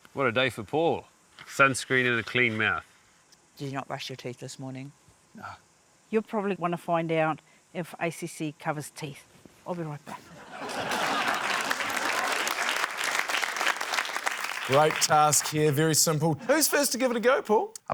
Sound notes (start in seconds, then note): 10.3 laughter, applause